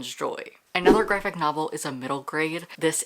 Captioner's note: whoosh